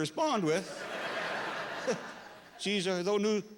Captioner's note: laughter